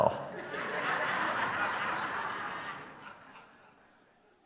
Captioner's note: audience laughing